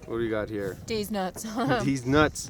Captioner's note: laughs